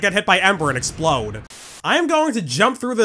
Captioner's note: static